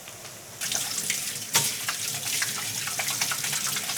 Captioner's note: water running